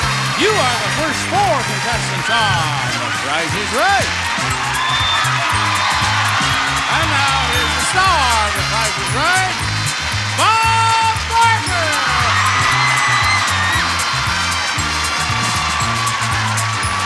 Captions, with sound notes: You are the first four contestants on "The Price is Right!" (audience cheering) And now here's the star of "The Price is Right," Bob Barker! (audience cheering) (upbeat music)